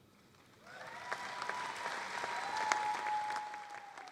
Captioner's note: applause and cheering